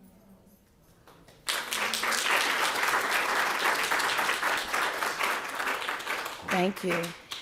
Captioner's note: applause